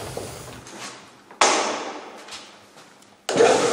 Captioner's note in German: Klacken; Maschine startet, lautes Klappern